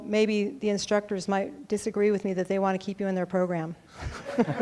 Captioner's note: laughing